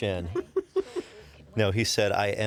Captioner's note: fillion laughs